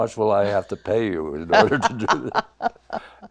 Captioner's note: laughs